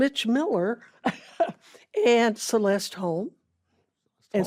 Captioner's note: chuckles